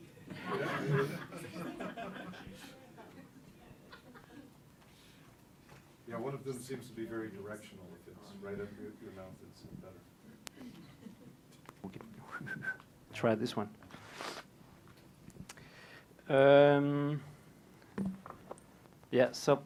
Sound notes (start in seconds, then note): 0.2 laughter; 12.2 whistles